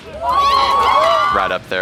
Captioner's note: crowd cheering